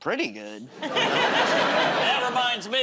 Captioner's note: laughter